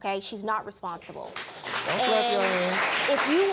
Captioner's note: audience applauding